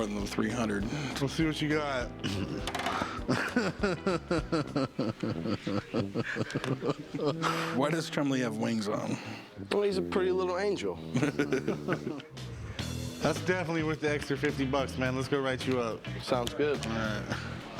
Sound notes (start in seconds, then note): 2.6 laughs; 11.1 laughter